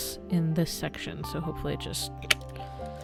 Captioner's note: clicking sound